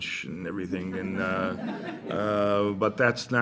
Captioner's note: laughter